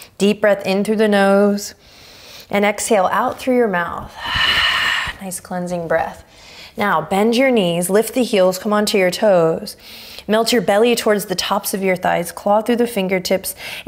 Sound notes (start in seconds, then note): 1.8 inhaling deeply; 4.0 exhaling strongly